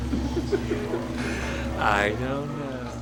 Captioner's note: giggling